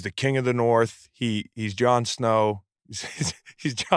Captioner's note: laughs